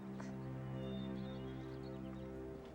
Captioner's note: bird chirp